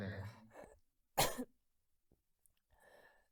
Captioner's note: Chaplin coughs